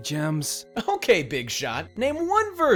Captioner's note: laughing